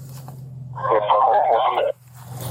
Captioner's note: radio chatter